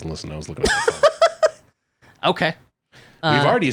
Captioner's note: laughing